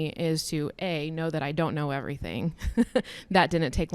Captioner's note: chuckles